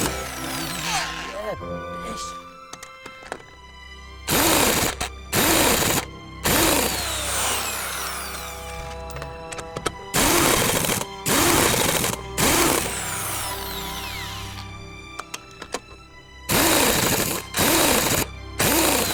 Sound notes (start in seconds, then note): 0.1 impact Wrench releases nut, giggles; 4.3 more Impact Wrench tearing into wheel nut